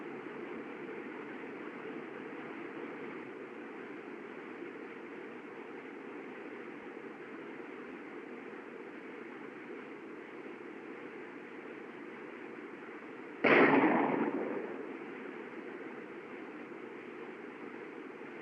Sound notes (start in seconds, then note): 13.4 gunshot